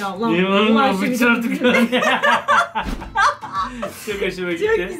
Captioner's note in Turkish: Gülüyorlar